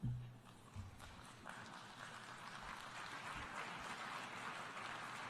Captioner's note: applause